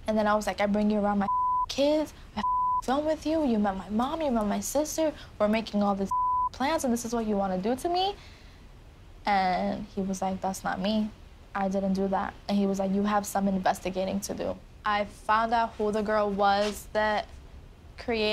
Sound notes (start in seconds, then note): 2.4 beep; 6.1 beep